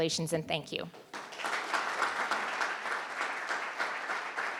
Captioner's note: crowd clapping